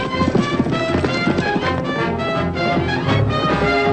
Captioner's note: horse galloping